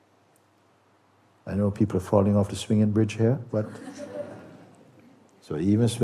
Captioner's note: laughter